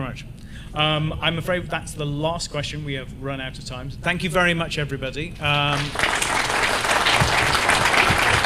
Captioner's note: applause